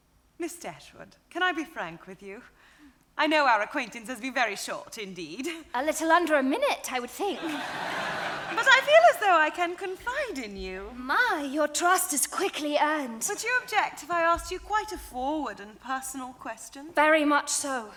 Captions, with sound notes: - Miss Dashwood, can I be frank with you? I know our acquaintance has been very short indeed. - A little under a minute I would think. (audience laughing) - But I feel as though I can confide in you. - My, your trust is quickly earned. - Would you object if I asked you quite a forward and personal question? - Very much so.